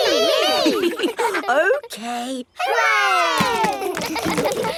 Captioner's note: chuckles; kids laughing